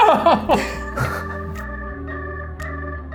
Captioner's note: laughing; mellow melodic music